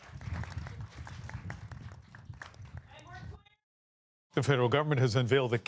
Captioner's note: cheering and applause